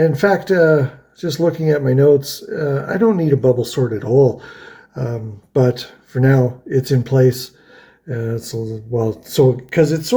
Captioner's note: stammers